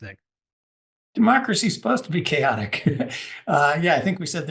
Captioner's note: laugh